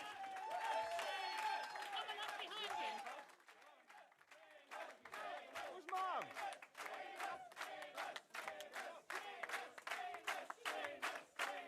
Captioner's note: applause & Cheering